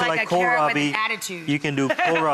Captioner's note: laughs